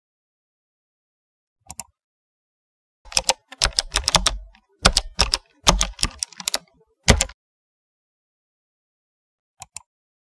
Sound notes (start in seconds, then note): 1.6 mouse click; 3.0 keyboard typing; 9.6 mouse click